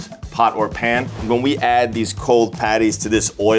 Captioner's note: note swooshes